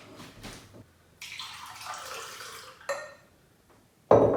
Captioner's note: juice pouring